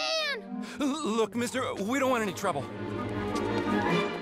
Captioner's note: stuttering